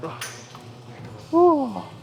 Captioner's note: grunts